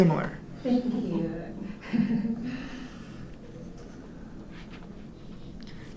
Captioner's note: chuckles